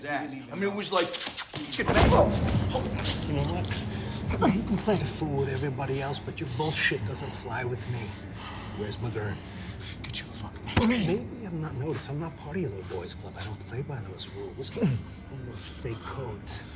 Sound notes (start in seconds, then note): 1.1 kissing; 1.8 thudding; 10.0 banging